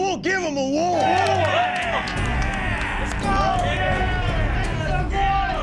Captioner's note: men cheering